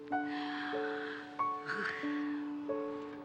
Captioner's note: sighs